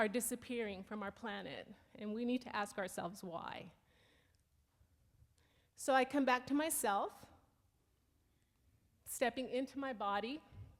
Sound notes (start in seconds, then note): none